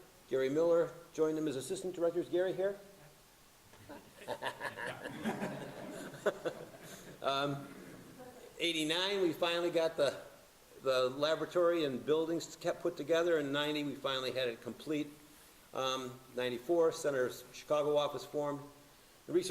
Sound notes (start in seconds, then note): 3.8 laughing